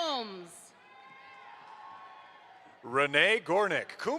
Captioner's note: audience applauds